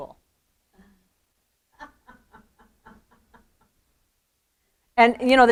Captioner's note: laughter